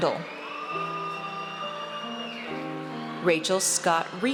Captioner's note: audience cheers